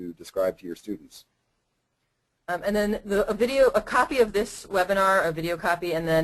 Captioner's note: voiceover